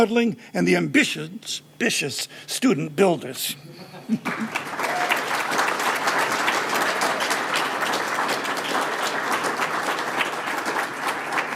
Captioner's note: applause